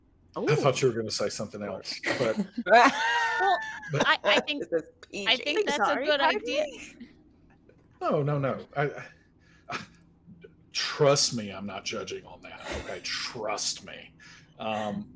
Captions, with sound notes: - I thought you were gonna say something else, but-- (laughter) - Well, I think that's a good idea. - Oh no, no. Trust me, I'm not judging on that. Okay, trust me.